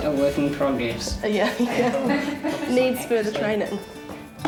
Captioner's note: laughs